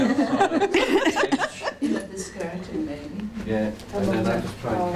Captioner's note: audience chatter